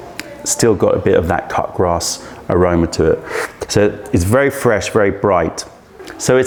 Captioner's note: sips tea